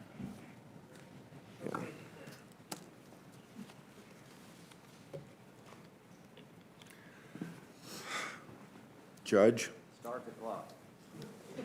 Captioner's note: laughter